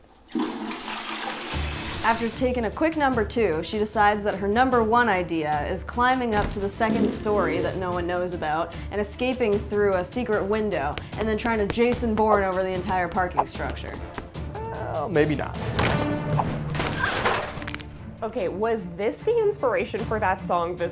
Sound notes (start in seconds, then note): 0.0 toilet flushing; 15.9 girl yelping; 15.9 loud crashing